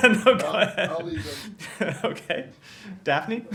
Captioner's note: laughing